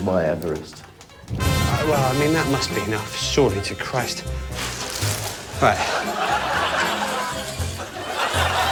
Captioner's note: audience laughing; cheering and applause